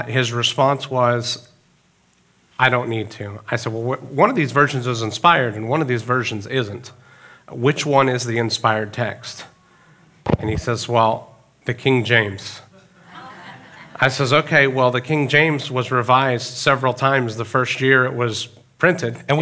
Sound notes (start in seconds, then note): 12.7 audience chuckling